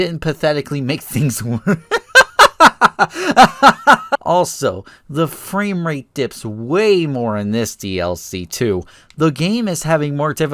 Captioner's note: laugh